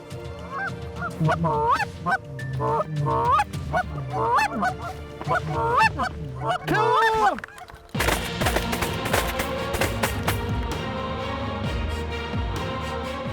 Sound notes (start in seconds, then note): 0.9 goose calls; 7.9 gun shots